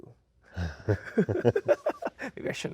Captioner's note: both chuckling